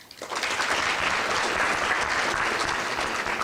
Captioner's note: clapping